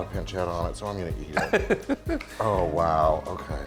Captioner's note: laughs